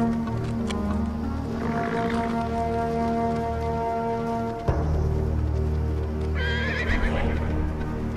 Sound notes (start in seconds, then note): 0.0 footsteps; 1.6 horse snorts; 6.3 horse whinnies